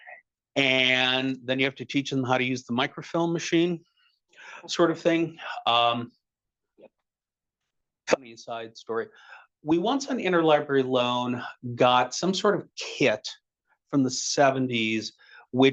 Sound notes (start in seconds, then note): 5.6 audio cutting out